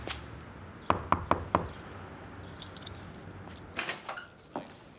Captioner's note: knuckles rapping; door squeaks